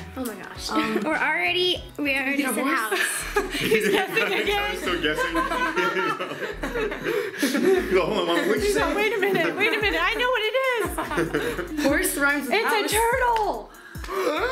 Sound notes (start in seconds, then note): 5.5 laughing; 13.7 gasps